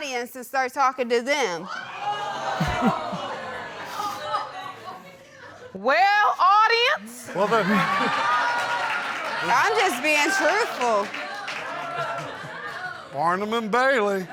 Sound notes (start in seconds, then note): 1.7 audience exclaims; 7.2 audience exclaims and laughs